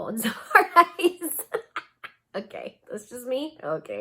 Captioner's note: laughs